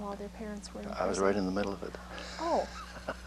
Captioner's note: laughs